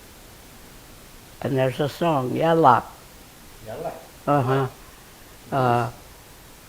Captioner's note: speaking in foreign language